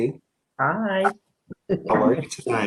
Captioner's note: chuckles